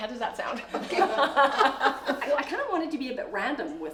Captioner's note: laughing